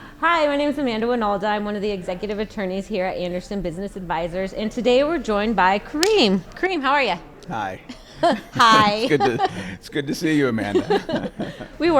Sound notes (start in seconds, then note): 7.4 laughs; 10.6 both laughing